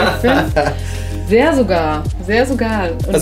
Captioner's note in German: Lachen